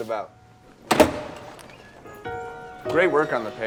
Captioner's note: door rattling